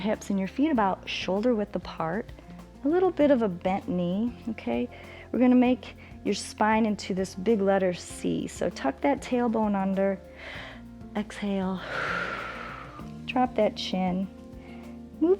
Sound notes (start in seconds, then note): 11.8 exhales